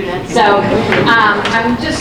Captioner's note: audience laughing